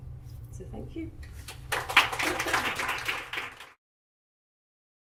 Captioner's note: audience applauding